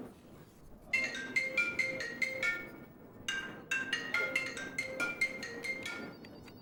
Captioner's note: phone ringing